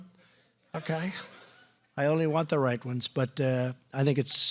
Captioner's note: laughter